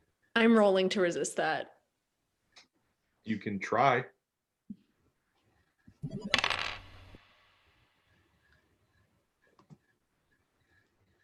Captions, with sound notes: I'm rolling to resist that. You can try. (beeps, sound of dice rolling)